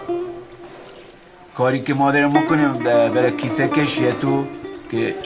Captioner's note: speaks in other language: translation on screen